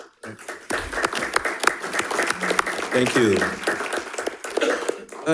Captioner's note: audience clapping